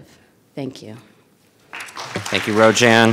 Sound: audience applauding

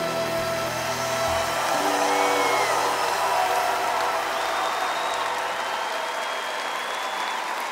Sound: audience applause

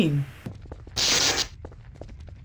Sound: electricity sounds; object sounds; footsteps

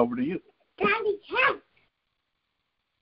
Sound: child talking background

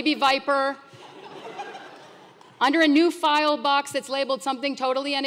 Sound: laugh

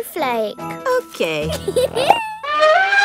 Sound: giggles; trumpets

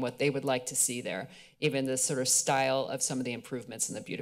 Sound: none

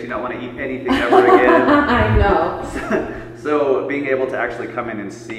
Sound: laughing

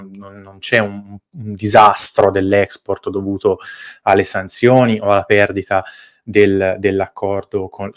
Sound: Italian

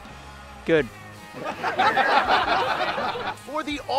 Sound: laughter

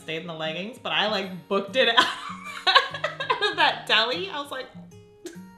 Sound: laughs

